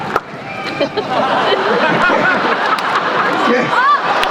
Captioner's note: laughter